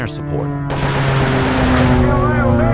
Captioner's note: gunfire